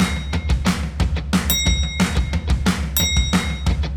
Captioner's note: upbeat music; bell dinging; upbeat music; bell dinging